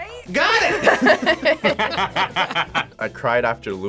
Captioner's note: both laugh